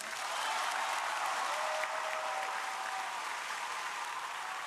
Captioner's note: crowd applauding